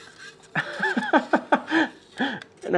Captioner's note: laughing